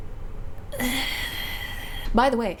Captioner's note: pained noises